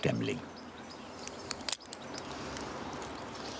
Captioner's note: click